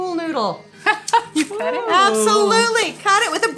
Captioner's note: laughs